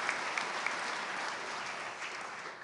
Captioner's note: applause